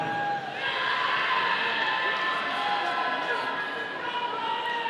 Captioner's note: audience cheering